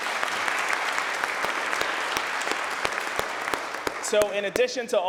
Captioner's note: applause